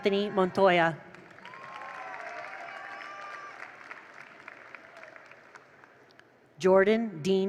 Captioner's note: attendees cheer; attendees applaud